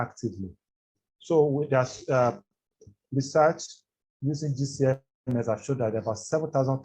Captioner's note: audio distorts